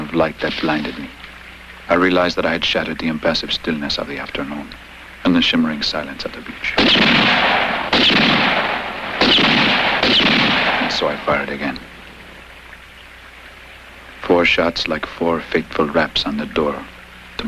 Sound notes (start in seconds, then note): 6.7 gun shots